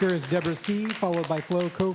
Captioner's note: applause